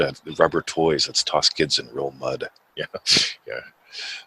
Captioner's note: laughs